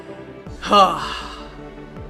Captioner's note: deep Sigh